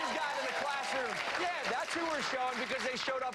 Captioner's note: applause